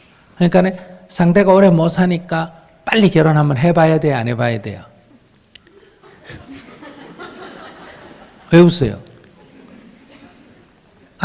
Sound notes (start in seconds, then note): 7.4 audience Laughter